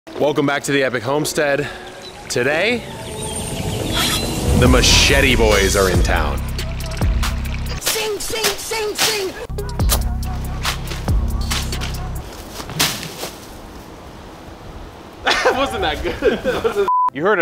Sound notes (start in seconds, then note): 9.5 bass music; 12.5 machete whipping